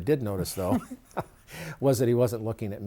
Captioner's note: chuckles